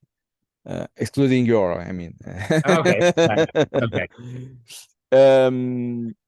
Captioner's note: laughing